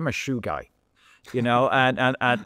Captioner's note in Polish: śmiech